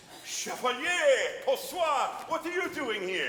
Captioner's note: speaks foreign language